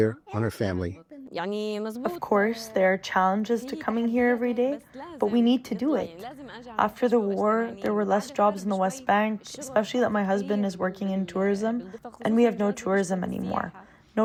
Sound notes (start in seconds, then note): 2.5 through translator